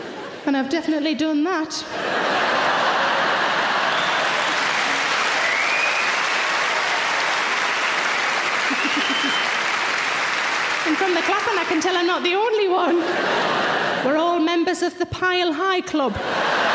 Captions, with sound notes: And I've definitely done that. (audience laughter) (audience applause) And from the clapping I can tell I'm not the only one. We're all members of the pile high club.